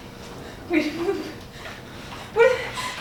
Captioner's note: woman grunts